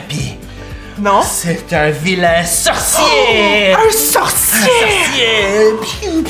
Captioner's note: gasp